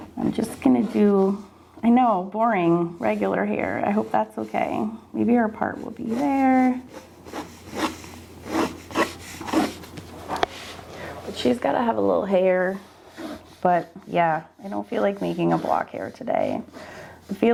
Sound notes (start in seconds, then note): 8.4 pen scribbling